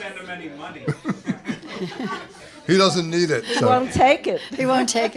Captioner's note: laughter